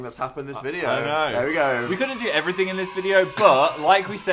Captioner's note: celebratory children cheers